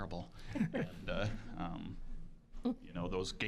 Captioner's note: scattered laughing